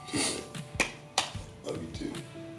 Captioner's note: slapping